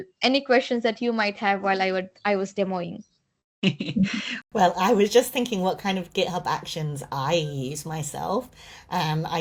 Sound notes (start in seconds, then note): 3.6 chuckles